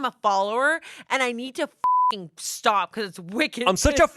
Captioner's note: beep